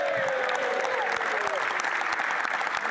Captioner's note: applause